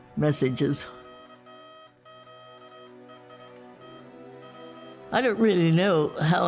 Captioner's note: radio Morse beeping